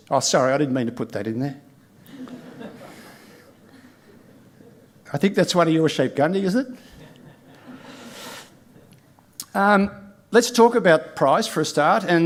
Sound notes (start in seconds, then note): 2.0 audience chuckles; 6.9 audience chuckles